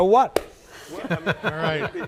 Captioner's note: everyone laughing